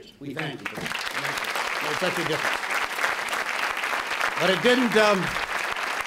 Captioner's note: applause